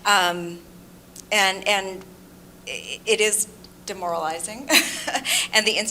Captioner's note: laughs